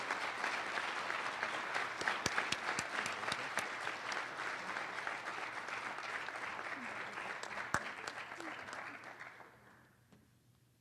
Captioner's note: applause